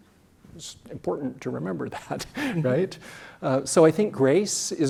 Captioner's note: laugh